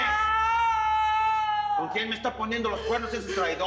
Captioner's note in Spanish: Quejidos